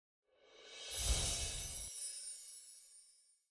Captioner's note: bells chime